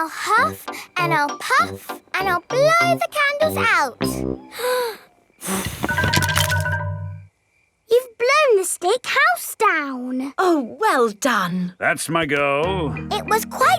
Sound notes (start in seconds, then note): 5.4 blowing